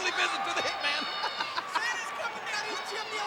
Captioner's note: laughs